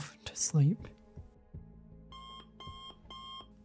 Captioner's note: beep beep beep